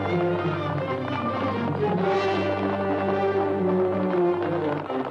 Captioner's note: hooves clopping